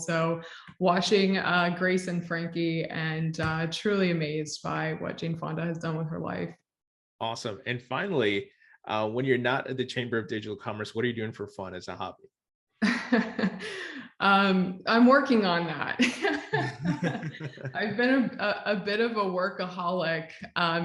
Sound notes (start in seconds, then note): 16.0 both laugh; 16.2 laughs